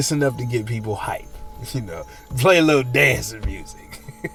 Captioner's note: laughing